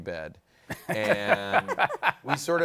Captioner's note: laughter